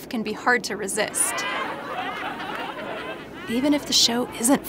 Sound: laughter

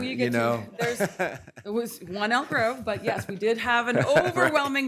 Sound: laughter

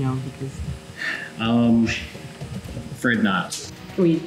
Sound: sigh

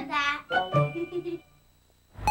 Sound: kids giggle

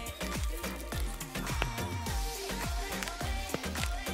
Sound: pizza crunches

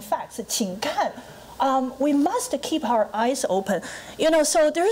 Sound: foreign language

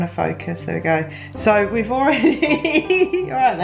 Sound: laughter

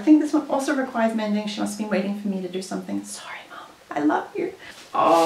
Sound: whispers

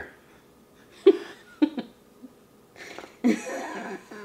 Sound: laughing

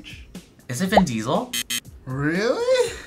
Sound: buzzer

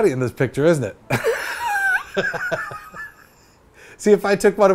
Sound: laughs

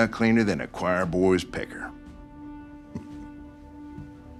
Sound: chuckles

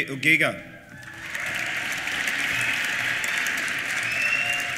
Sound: cheers and whistles; applause

